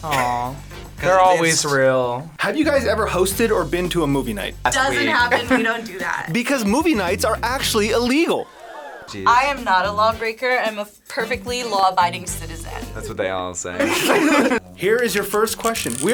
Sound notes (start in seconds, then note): 5.0 laughs; 8.3 audience gasps; 13.8 both laugh